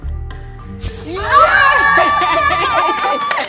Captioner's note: light suspenseful music; laughs; all clapping